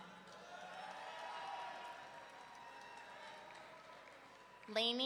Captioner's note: audience cheering